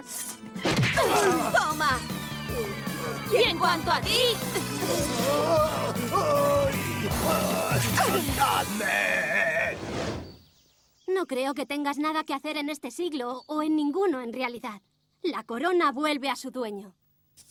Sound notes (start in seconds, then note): 0.7 thump